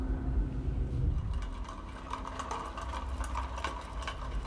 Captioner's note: rattling